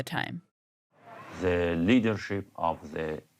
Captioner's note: soundbite of archived recording